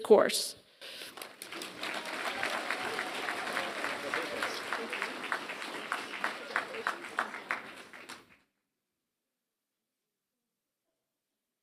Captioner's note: applause